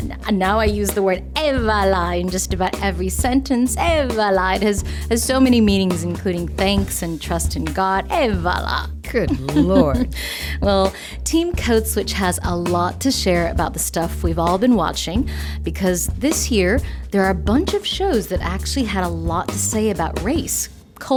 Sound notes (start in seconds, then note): 9.2 laughter